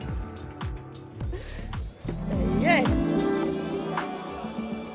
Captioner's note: laughing